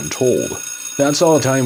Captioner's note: A Schoolbell Rings